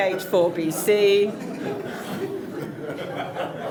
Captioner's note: laughter